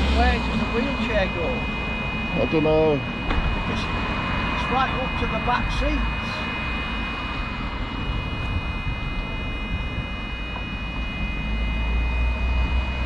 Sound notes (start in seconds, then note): 6.9 beeping noise from minibus